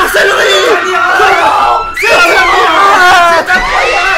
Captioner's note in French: Crie en fond